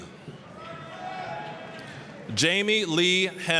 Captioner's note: applause, cheering